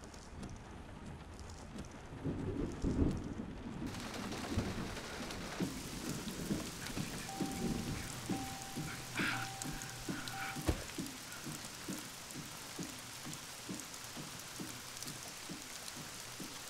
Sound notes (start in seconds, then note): 2.2 thunder